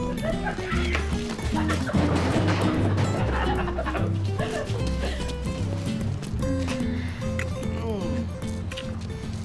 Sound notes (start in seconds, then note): 0.0 laughs; 6.3 moans